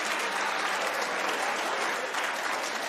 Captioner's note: audience reacts